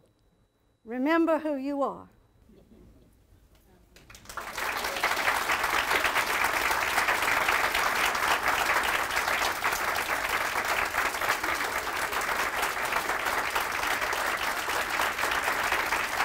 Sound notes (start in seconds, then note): 3.9 applause